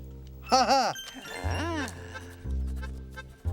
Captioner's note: laughs; upbeat Italian music